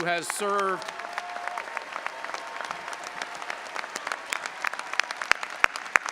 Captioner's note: audience applauding and cheering